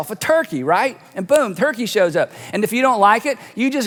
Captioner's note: snaps